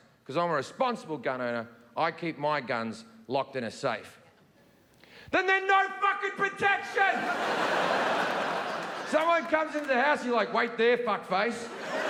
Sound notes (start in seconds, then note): 7.1 audience laughing; 11.6 audience laughing